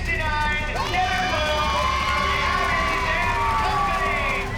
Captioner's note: cheering